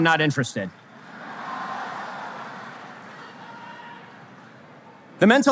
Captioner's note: audience laughter